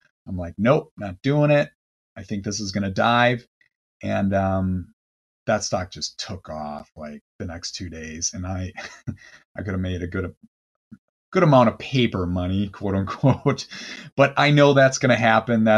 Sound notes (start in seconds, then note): 8.8 laughs